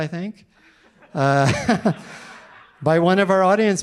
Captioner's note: audience laughing